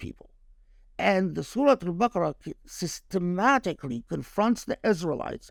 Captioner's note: speaking Arabic